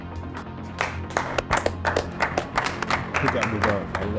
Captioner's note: group claps